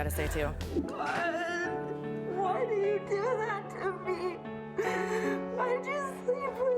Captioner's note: crying